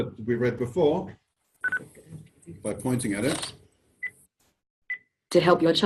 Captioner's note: OrCam makes shutter sound and beeps